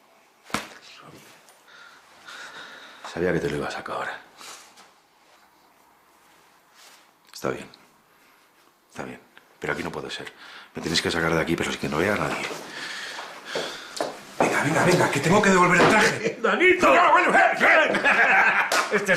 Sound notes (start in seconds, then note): 12.0 footsteps; 17.4 shout and laugh